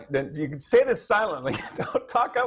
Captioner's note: laughs